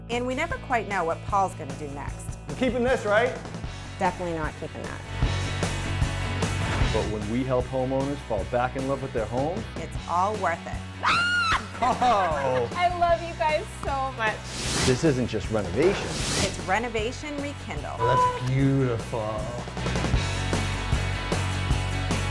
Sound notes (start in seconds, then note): 11.0 woman screaming; 19.6 upbeat music